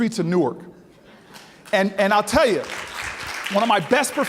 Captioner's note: audience applauding